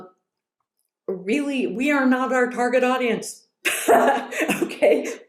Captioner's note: laughs